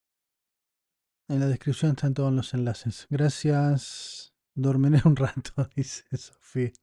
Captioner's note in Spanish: risas